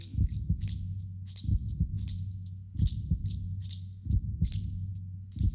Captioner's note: heart beating